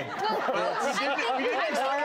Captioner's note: audience laughs